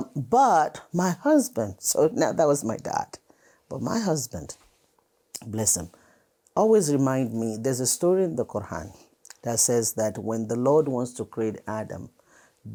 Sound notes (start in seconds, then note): none